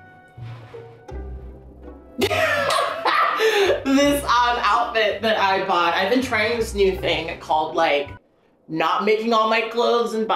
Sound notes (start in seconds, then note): 2.2 laughing